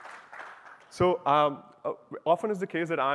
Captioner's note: applause